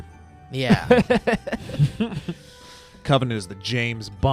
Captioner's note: laughing